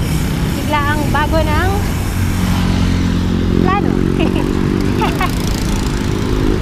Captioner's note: laughs